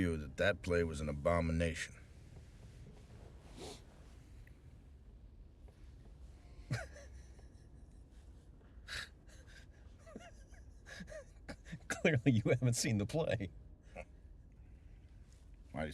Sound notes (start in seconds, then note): 3.5 sniffles; 6.7 laughing